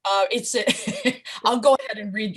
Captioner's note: laughter